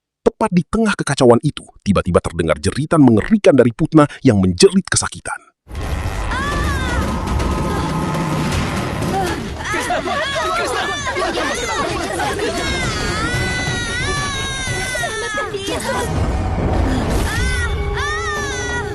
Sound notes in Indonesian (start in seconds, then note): 13.7 berteriak; 13.7 menangis